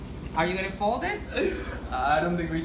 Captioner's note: laughs